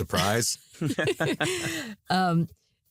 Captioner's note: all laughing